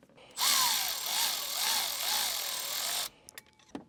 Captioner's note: wrench whirs